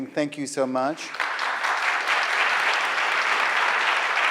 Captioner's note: applause